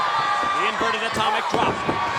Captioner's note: crowd cheering